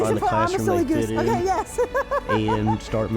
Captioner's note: laughs